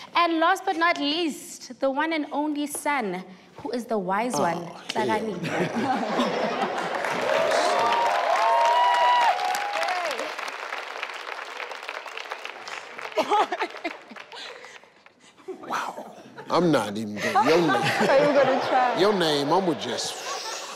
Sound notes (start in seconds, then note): 6.7 everyone applauds